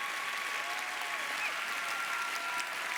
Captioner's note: applause